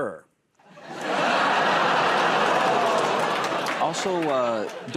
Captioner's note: laughter